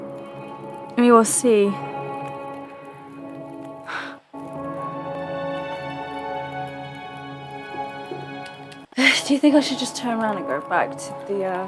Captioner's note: sigh